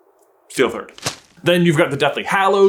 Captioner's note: thwap!